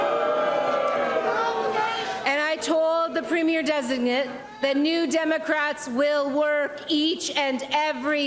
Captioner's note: crowd jeers